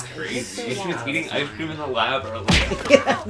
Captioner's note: laughs